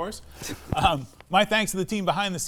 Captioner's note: laughs